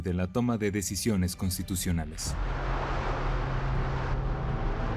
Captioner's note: plane engine whirling